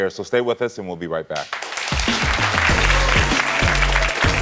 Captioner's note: audience clapping